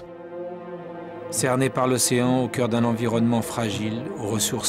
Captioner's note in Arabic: الصوت المنطوق باللغة الفرنسية